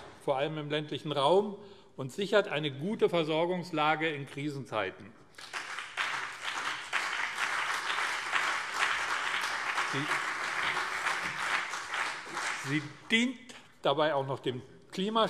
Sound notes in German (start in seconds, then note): 5.3 Beifall BÜNDNIS 90/DIE GRÜNEN und CDU